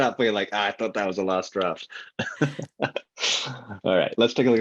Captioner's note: laughs